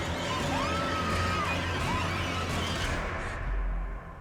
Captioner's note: screams